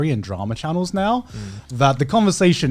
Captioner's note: affirmative murmuring